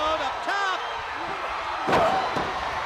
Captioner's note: crowd cheering